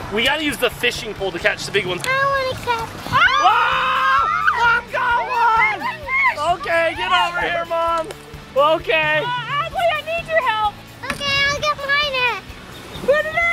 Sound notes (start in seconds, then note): 3.1 screaming